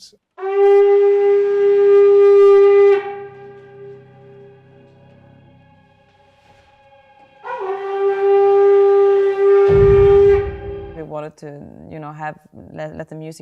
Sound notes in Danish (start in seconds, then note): 0.4 Horn blæser; 7.4 Horn blæser